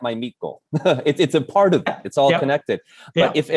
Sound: laughs

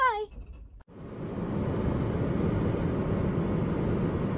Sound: wind blows

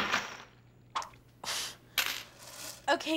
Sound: scoffs

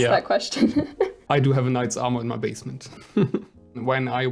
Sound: laughs

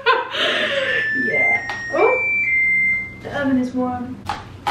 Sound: beeping

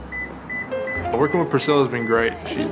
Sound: beeping

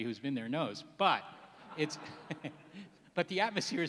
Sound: laughs

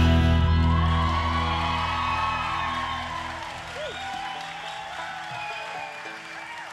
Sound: audience cheering and applauding

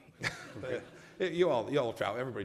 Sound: laughter

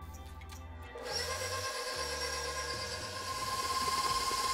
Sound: mixer whirring

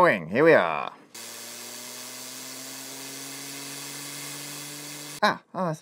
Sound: quiet whirring

